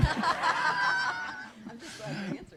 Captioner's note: laughter